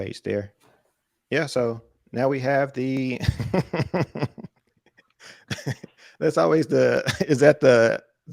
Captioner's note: laughter